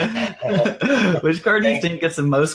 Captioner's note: laughs